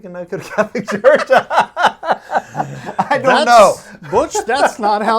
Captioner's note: laughing